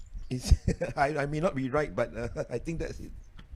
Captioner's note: giggles